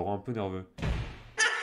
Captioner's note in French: claque le tiroir